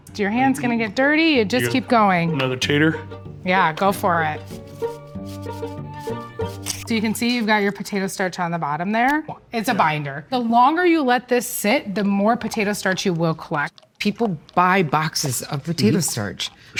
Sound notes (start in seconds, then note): 3.5 potato scratching; 4.5 bright music